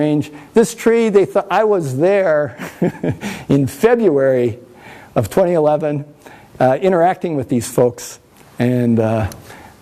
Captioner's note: laughs